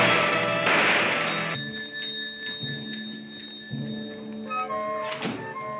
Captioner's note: bell chiming; brooding music